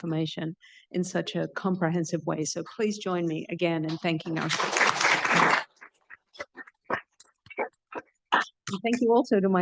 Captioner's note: applause